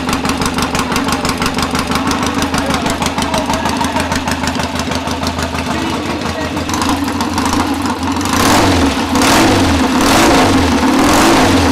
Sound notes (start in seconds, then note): 7.3 engine revving